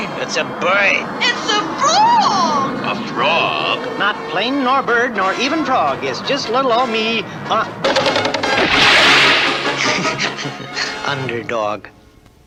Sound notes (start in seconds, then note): 8.2 crash! & splash!; 9.7 laughs!